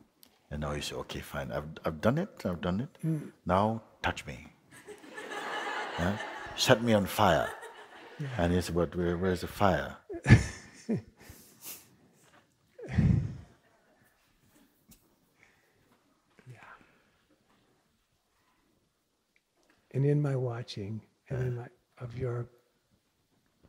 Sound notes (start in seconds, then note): 4.8 laughter; 10.1 questioner chuckles